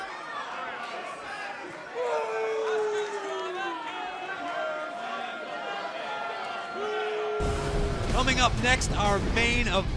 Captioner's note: crowd chatter